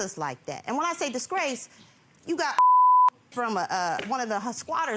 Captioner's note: beep